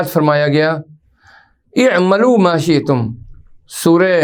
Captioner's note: arabic